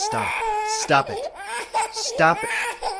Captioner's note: sounds of perpetually crying infant